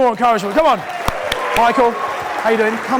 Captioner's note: audience cheering